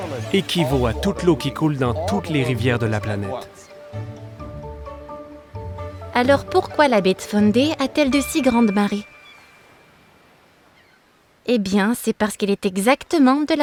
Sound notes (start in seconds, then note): 8.1 seagulls cawing